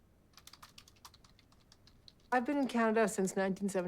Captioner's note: keyboard clacking